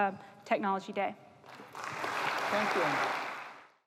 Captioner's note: applause